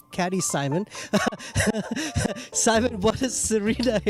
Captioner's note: laughs